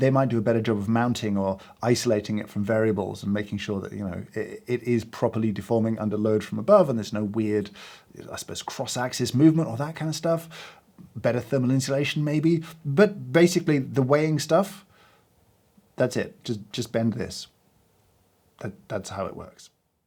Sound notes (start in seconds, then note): none